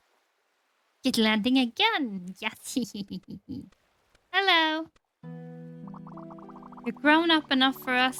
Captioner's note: laughs pleased